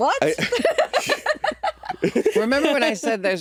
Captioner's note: laughing